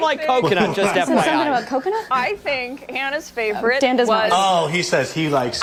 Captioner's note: laughter